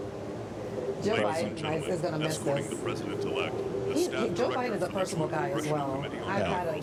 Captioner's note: laughter